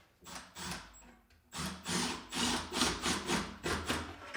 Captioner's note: drill whirring